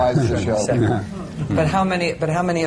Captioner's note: laughter